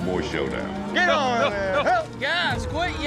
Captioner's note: yelling